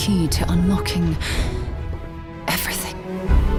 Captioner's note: female narrator gasps